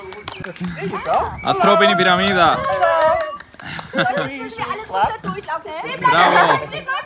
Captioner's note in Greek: χειροκρότημα